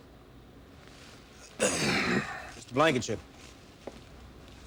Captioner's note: grunts